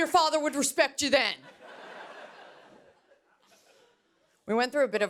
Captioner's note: laughter